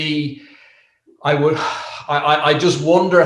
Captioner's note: sighs